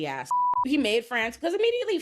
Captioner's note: beep